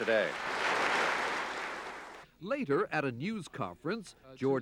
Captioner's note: applause